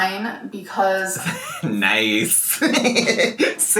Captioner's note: laughs